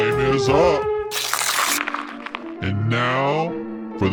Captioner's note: paper crunching